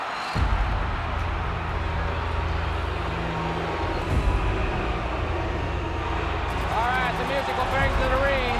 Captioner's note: crowd cheering